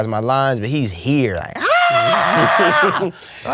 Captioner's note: yelling